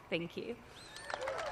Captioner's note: applause